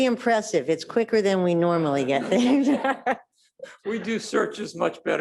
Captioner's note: laughs